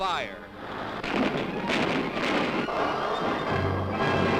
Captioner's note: rockets booming